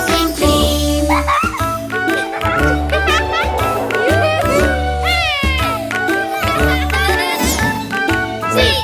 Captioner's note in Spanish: Música Alegre; Risas